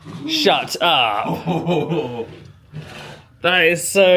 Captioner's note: laughs